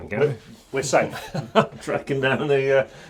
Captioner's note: chuckling